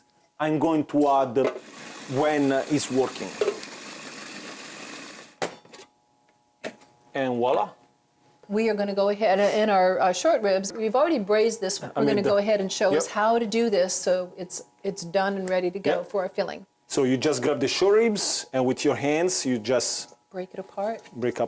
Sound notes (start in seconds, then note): 3.3 food processor grinding